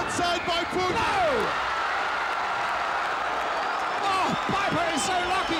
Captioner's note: audience cheering